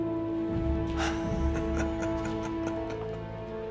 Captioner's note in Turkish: Gülüyor